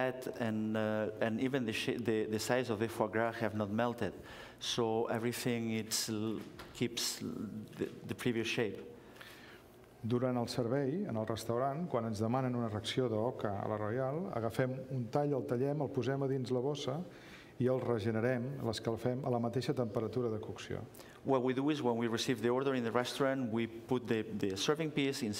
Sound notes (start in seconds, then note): 13.6 speaking catalan